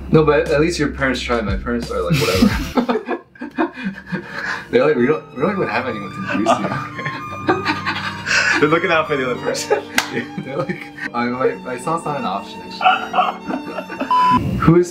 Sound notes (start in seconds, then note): 3.6 laughing; 6.3 laughing; 12.8 laughing